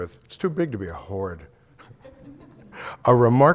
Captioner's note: laughter